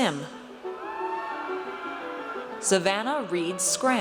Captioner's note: audience cheers